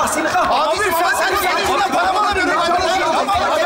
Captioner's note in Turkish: bağrışmalar